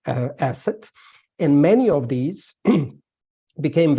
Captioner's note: clears throat